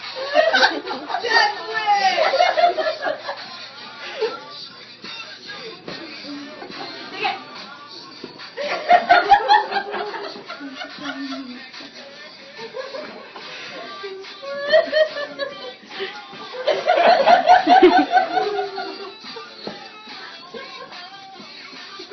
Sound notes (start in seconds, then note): 6.4 laughter; 8.6 laughter